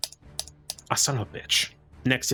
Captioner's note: furious Clicking Noises